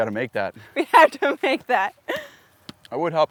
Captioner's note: laughs